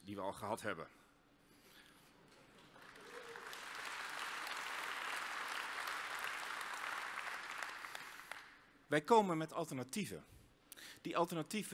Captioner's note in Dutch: applaus